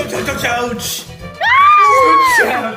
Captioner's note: Jibanyan yells